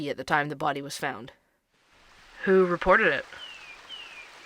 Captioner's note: ambience - outdoor wilderness